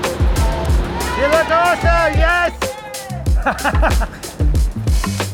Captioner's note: laughing